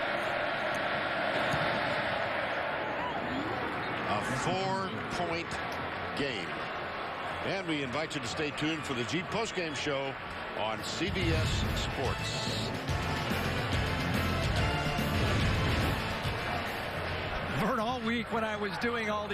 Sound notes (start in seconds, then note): 3.7 crowd noise